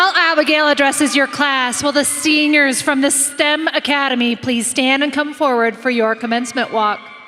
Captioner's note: applause